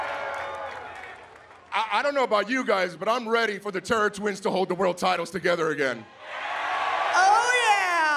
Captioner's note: cheering